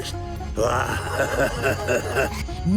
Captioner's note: laughing